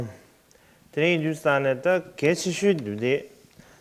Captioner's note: non-english speech